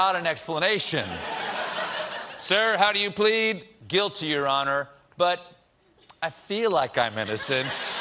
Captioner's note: laughter